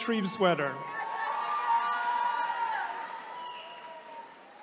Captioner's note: attendees cheering